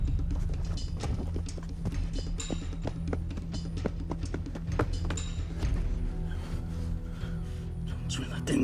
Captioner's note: running footsteps